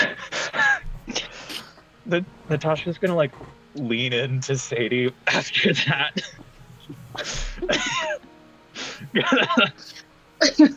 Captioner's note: laughter